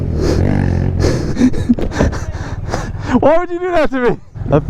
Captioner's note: laughing